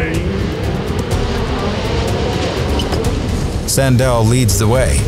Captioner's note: engines rev